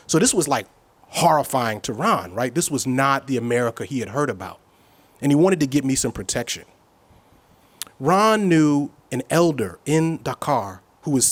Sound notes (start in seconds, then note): none